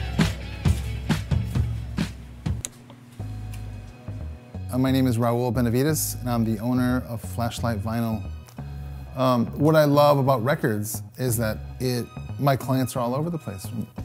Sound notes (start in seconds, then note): 2.6 click